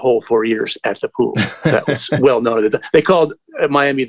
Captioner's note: laughter